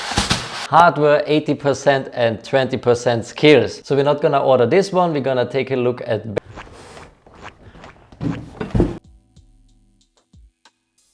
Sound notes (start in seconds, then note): 6.4 squelching